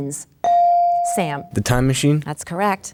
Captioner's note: bell dings